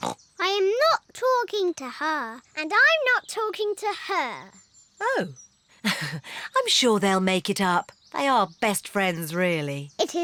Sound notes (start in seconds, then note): 0.0 snorts; 5.8 laughs nervously